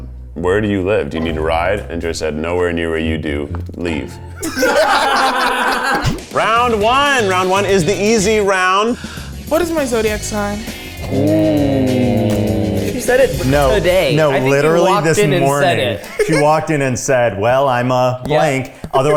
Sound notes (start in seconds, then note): 4.1 everyone laughs